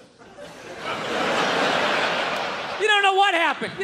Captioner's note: crowd laughs